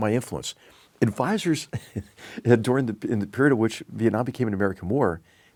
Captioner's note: laugh